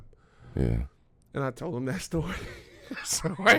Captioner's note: laughs